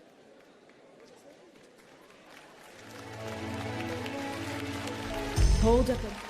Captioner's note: applause